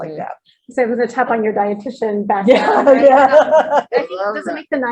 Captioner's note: laughter